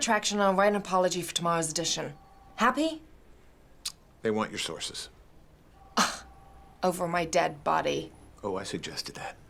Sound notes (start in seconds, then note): 5.6 scoffs